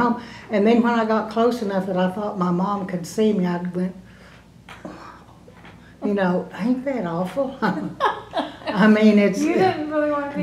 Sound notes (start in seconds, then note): 7.6 laughter